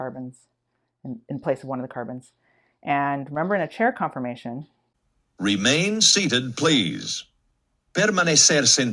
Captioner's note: continues in Spanish